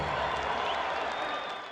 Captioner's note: applause